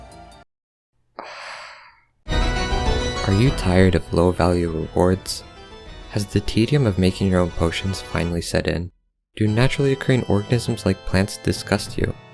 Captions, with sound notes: *sigh* Are you tired of low value rewards? Has the tedium of making your own potions finally set in? Do naturally occuring organisms like plants disgust you?